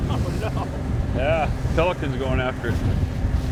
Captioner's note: chuckling